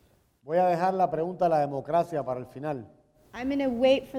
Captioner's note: speaking in Spanish